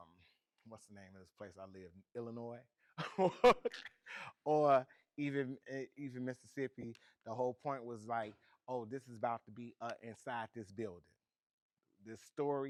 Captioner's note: laughs